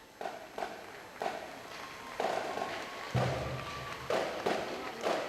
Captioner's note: audience applauds